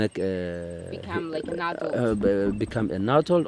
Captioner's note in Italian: Inglese